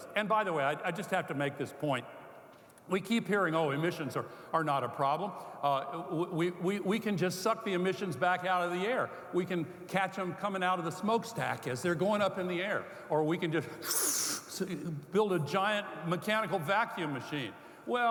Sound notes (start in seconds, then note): 13.8 sucking